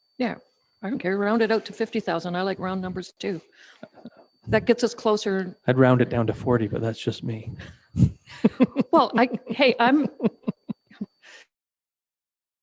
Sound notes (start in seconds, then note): 5.8 laughing